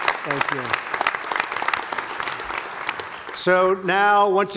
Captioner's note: applause